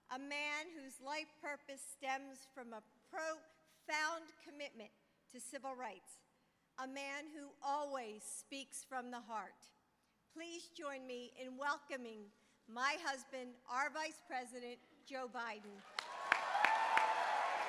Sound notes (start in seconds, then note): 15.6 applause